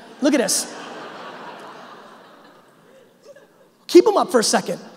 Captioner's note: audience laughing